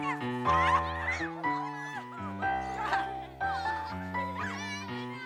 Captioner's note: children chattering